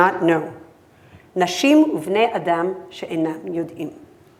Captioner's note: speaking hebrew